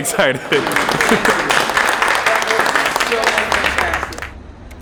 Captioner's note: applause